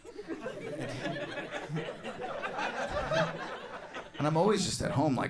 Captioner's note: scattered laughter